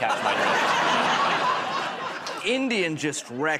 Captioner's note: laughter